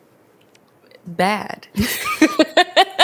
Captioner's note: both laugh